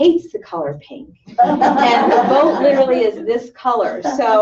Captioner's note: laughter